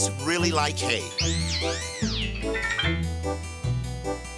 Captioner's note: squeals, plinks